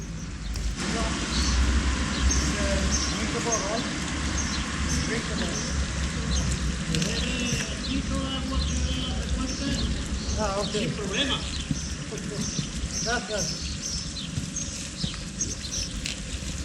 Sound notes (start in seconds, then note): 7.2 speaking Spanish